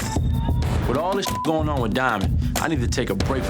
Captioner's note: upbeat music; beep